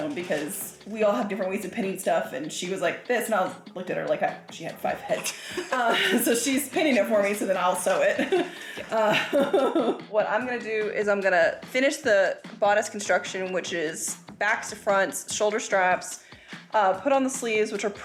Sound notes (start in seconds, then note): 8.5 laughing